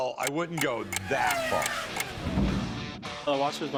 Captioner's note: race car zooming